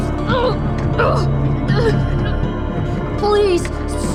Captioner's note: fredbear rattles